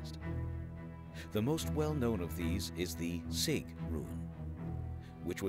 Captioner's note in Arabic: بالألمانية الناطقة